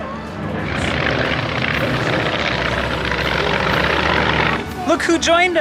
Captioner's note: airplanes whirring